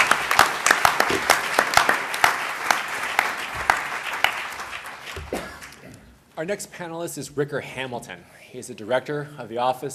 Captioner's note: applause